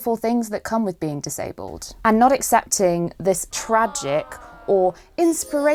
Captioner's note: ahhhh